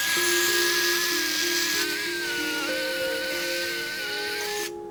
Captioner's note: machine buzzing